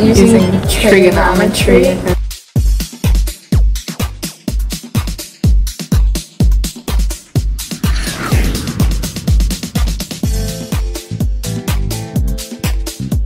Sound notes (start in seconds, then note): 2.4 upbeat music; 7.6 projectile launching; 9.4 upbeat music